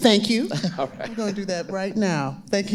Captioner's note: laughing